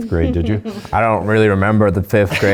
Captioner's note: laughs